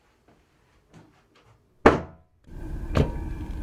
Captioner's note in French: Claquement de porte